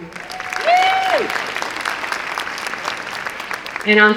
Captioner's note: applause and cheering